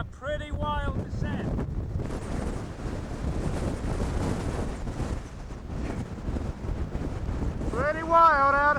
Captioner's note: wind